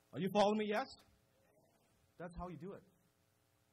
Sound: crowd

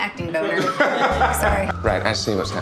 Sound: Amenadiel laughing

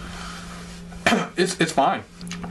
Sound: cough

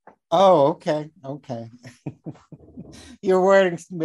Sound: laughing

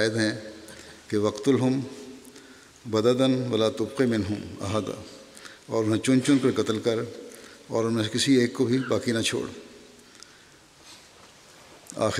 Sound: Arabic

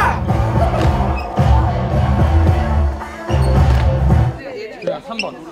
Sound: A shout in diverse pitches

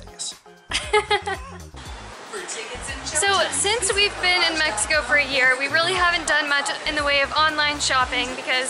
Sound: laughter

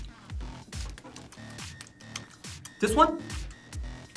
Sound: lips smacking

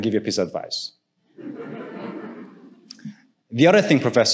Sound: audience laughing

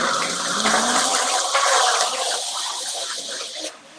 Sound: blender vibrating

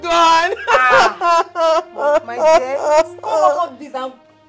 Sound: crying

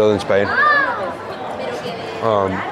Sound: people chatter; announcements in foreign language

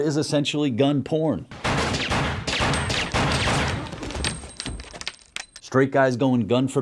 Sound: gunshots

